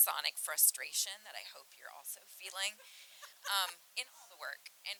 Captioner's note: laughing